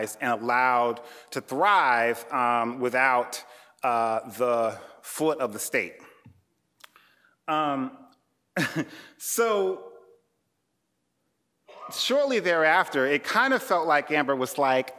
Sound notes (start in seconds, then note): 8.6 chuckling